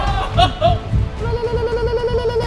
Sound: chants in terrorist

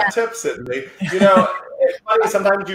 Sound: chuckles

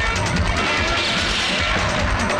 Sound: gunshot

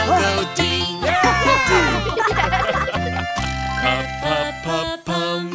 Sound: cheering; laughing

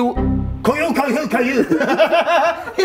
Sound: all laughing

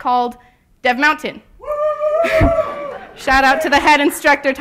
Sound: cheers from audience

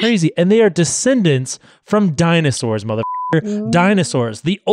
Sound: beep

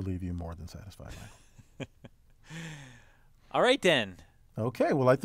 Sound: laugh

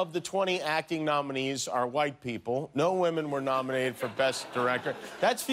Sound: laughter

